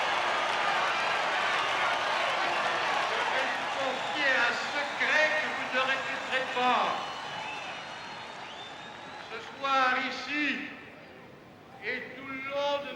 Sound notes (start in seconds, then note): 3.6 speaks French